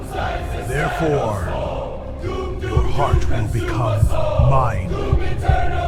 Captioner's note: heart beating SFX; heart Beating